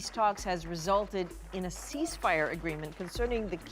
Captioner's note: cheering